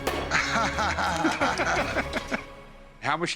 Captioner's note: laughter